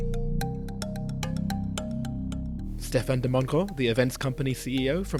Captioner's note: voiceover